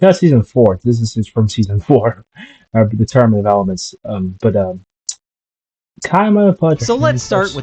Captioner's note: chuckle